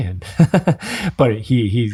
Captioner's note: chuckling